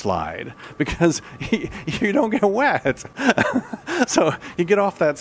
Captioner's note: laughing; still laughing